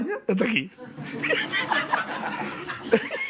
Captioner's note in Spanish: Risas